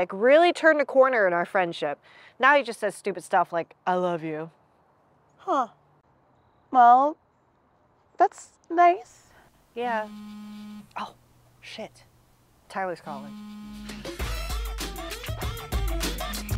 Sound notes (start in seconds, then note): 9.8 phone buzzes; 13.1 phone buzzes